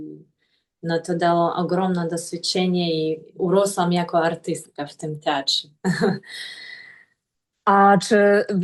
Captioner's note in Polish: śmiech